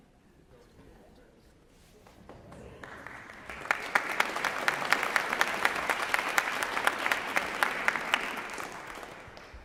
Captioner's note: applause